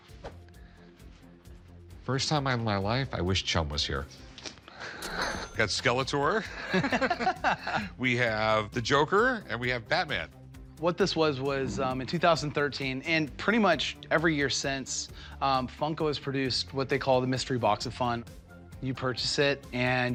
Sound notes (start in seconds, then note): 6.4 laughter